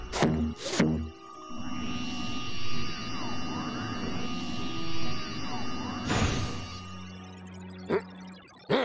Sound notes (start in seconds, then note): 1.5 electric whirring; 7.5 grumbles